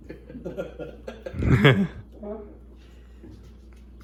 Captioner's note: chuckles